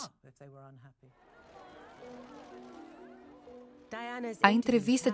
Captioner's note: crowd cheers loudly